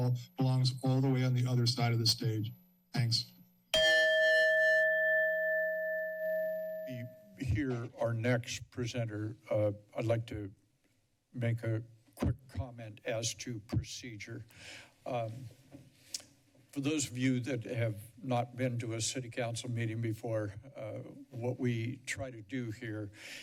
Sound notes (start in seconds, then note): 3.7 chime